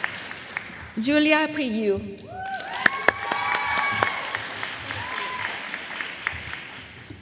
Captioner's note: applause